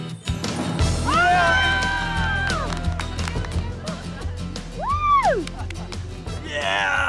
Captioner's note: cheering